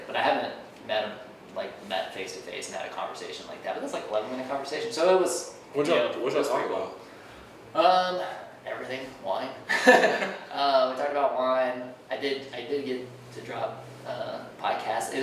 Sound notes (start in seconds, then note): 9.7 laughing